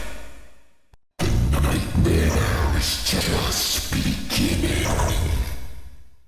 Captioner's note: deep, Glitching Voice; deep, Glitching Voice